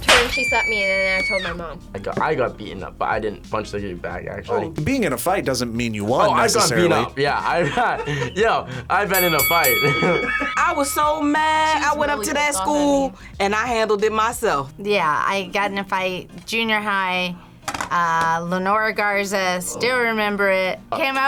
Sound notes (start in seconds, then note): 7.4 laughs; 9.1 bell rings; 9.6 both laugh